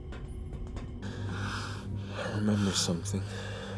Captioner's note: breathing heavily